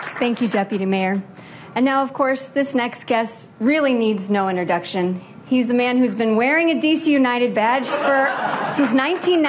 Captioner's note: applause